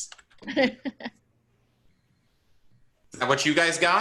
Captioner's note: chuckles